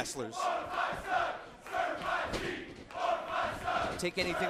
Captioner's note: fans chanting